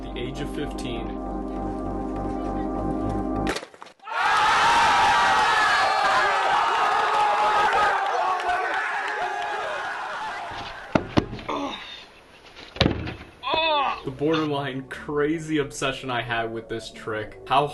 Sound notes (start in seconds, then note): 0.0 music intensifies; 3.4 crash; 4.0 crowd cheers loudly; 10.9 unicycle bangs